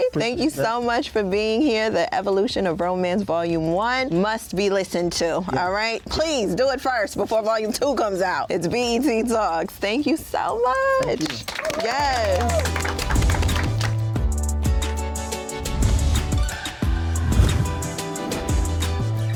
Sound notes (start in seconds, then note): 10.9 applause; 13.1 upbeat music